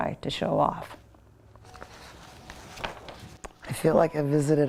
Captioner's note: papers rustling